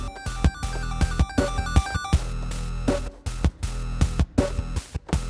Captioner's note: none